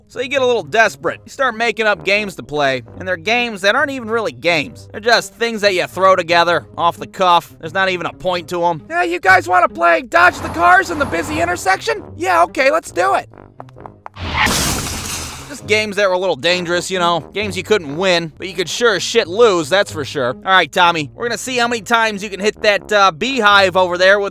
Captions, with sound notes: So you get a little desperate, you start making up games to play And those games aren't even really games It's just things that you throw together, off the cuff There's not even a point to 'em "Hey, you guys wanna play Dodge The Cars On A Busy Intersection?" "Yeah, okay, let's do it!" *footsteps* [Tires squealing, crash] Games, that are a little dangerous, you know, games you couldn't win, but you could sure as shit lose "Alright, Tommy, we're gonna see, how many times you can hit that beehive over there.."